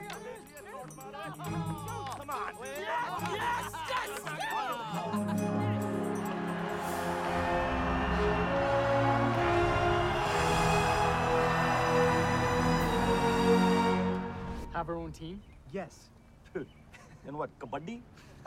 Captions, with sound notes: - Shoot! - Come on! - Yes! Yes! Yes! (cheering) (victorious music) (cheering) - Have our own team? - Yes. (scoffing) - ln what, kabaddi?